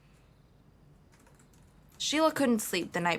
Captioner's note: typing